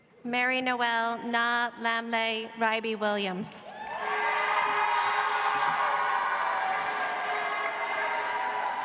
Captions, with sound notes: Mary Noel Naa Lamiley Riby‑Williams. (audience applauds)